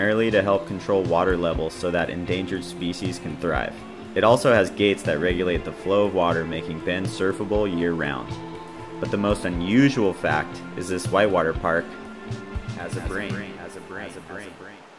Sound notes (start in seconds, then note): 12.5 echoes